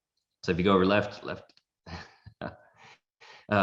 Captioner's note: laughs